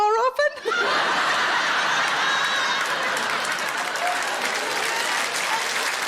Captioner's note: audience laughing and applauding